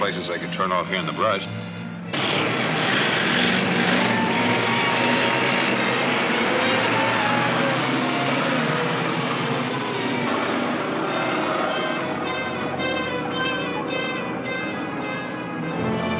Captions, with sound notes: here in the brush. (engines rumbling) (pensive orchestra music)